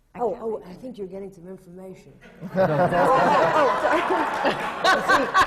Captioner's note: laughter